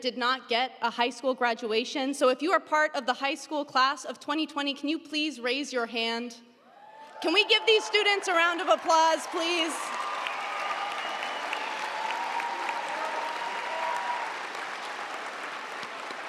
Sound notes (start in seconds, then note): 10.4 audience applauding; 10.4 audience cheering